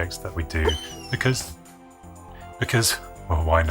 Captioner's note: whines